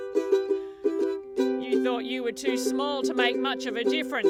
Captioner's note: speaks